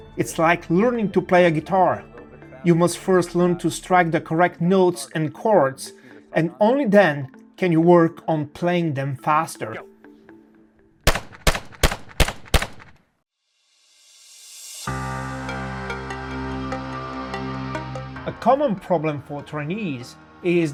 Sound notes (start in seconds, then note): 11.0 gun booming; 15.0 upbeat music